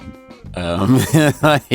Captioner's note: laughing